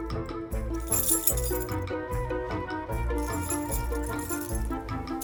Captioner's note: keys jingling